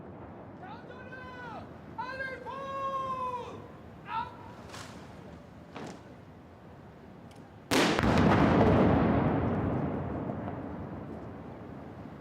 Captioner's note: 21-gun salute